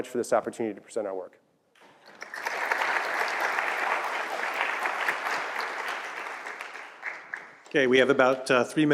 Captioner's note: applause